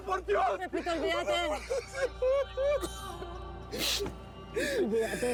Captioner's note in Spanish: llanto de pepito